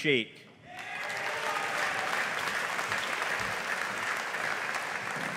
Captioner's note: audience applauding